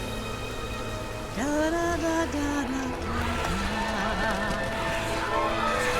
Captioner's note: hums